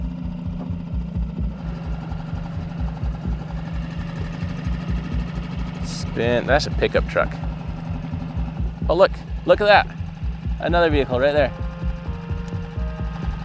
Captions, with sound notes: (boat whirring) - Spin. That's a pickup truck. Oh, look! Look at that! Another vehicle right there.